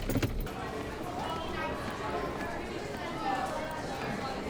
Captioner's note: students chattering